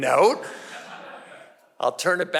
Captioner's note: audience laughing